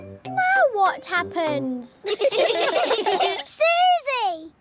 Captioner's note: all giggling